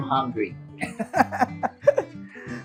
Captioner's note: laughs